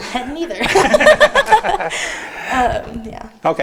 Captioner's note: laughing